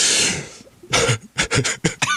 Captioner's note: laughs